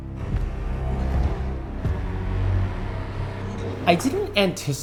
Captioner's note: footsteps thudding